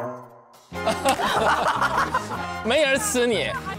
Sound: hahahaha

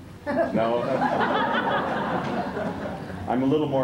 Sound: laughter

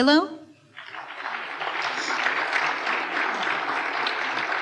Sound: applause

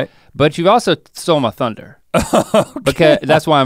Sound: laughs

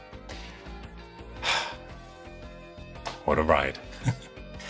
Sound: sighs

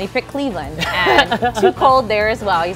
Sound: laughs

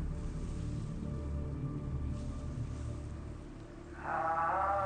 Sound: wind rumbles

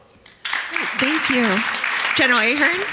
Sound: audience clapping

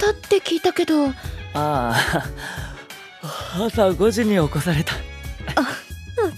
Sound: yawn

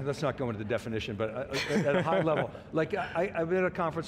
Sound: laughing

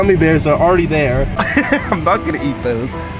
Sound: laughs

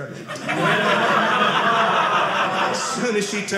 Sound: audience laughing

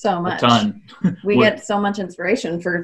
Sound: chuckles

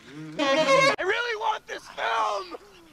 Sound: yelling

